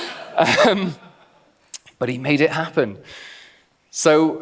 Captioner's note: laughs; clicks tongue